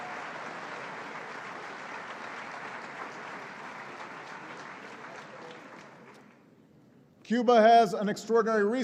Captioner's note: applause